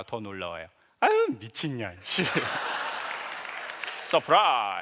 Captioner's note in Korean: 웃음